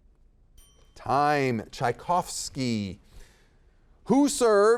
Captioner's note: bell dings